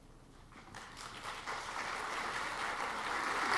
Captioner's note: clapping